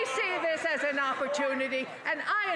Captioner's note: applause